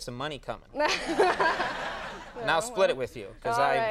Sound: Molly laughs; audience laughs

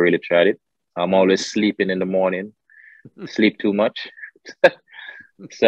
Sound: laughs

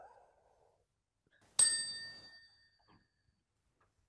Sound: chime

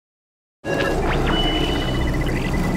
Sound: wind howling; electronic beeping

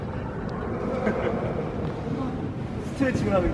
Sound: laughing

